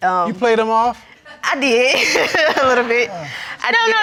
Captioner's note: laughs